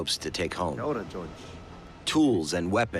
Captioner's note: speaking Maori